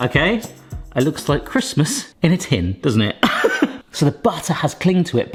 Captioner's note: laughs